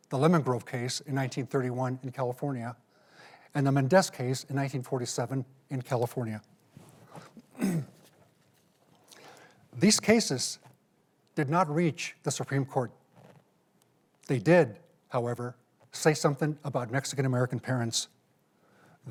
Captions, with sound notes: the Lemon Grove Case in 1931 in California and the Menendez case in 1947 in California. (clears throat) These cases did not reach the Supreme Court. They did, however, say something about Mexican-American parents.